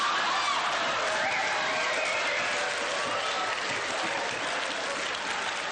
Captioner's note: audience scream and laugh